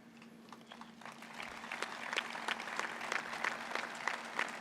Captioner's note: applause